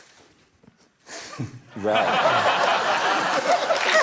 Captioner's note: chuckles; laughter